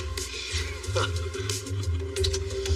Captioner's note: laughing